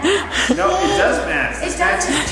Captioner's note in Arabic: يضحك كريستال